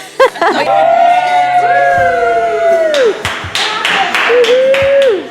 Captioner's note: crew cheering and clapping